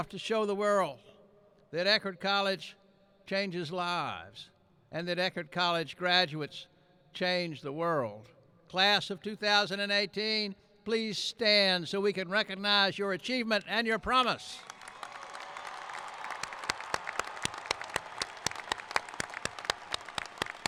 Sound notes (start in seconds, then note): 14.5 applauding; 14.6 cheering